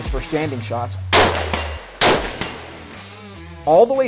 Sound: gun firing

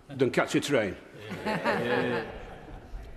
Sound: members laugh

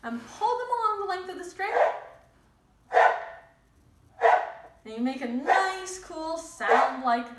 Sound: honking sound

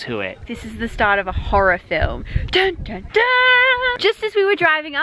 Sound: makes dramatic noises!

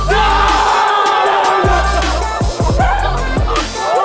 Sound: electronic music; cheering

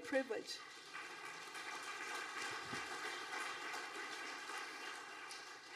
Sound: audience applauding

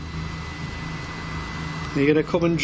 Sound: machine buzzing

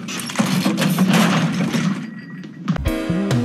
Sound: crash

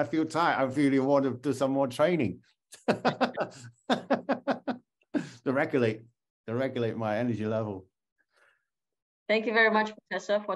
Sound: laughter

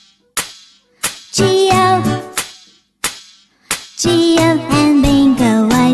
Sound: clap; clap

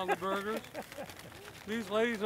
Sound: laughs

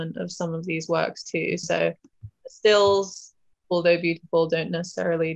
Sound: none

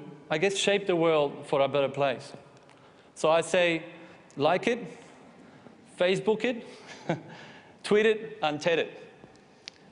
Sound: chuckles

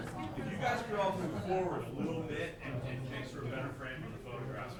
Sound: indistinct chatters

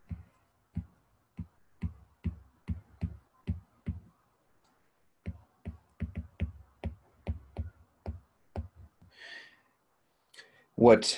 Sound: stylus thumping

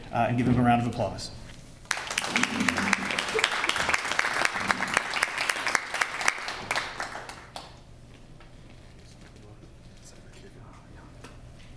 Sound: applause

